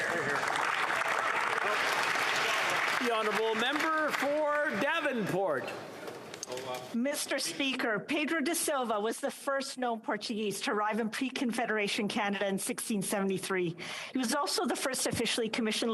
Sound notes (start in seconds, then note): 5.7 applause